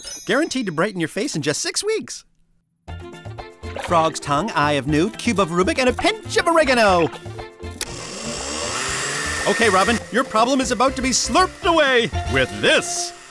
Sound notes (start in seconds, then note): 7.8 whirring